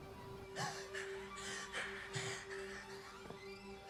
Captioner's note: panting